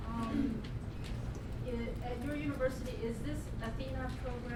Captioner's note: voiceover